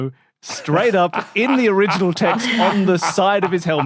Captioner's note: laughs heartily